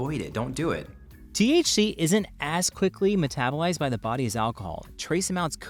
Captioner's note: voiceover